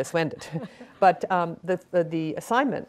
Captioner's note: laughing